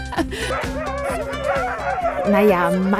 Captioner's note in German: freudiges Bellen